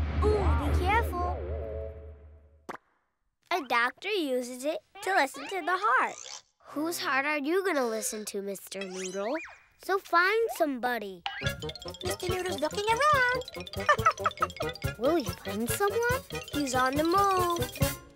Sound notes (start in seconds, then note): 0.0 drum beating; 13.7 laughs